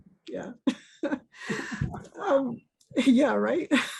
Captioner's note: chuckles